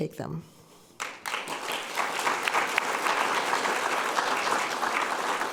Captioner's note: audience applauding